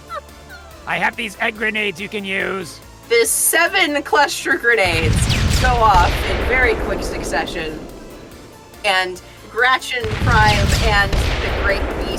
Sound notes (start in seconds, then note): 4.8 explosions; 10.5 explosion